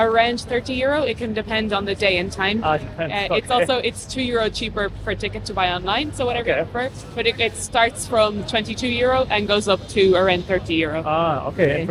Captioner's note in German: Englischer Dialog